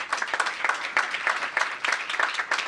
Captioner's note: applause